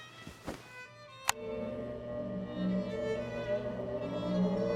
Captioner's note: machine powering on